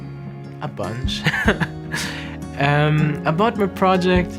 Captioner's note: chuckles